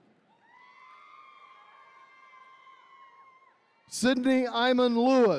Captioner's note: attendees cheering